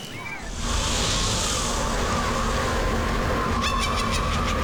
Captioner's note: kids screaming; wind; witch cackling